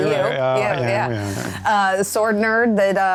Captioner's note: murmurs of assent